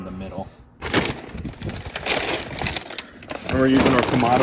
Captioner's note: charcoal pack crackling